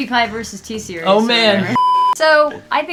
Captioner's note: beeping